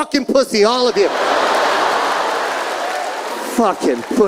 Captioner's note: audience laughing